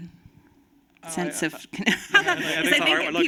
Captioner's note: laughter